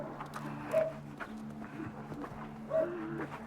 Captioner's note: dog barking